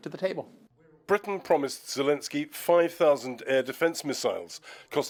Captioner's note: voice-over